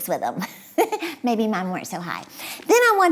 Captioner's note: chuckles